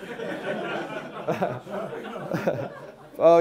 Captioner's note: laughing